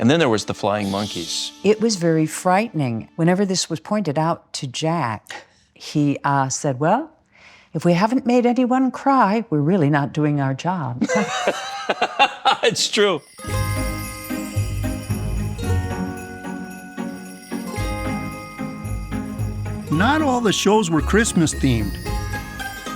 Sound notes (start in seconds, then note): 11.0 everybody laughing; 13.9 bright music